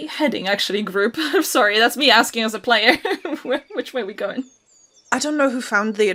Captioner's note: laughs